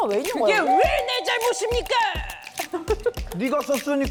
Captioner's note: somehow confident sound effect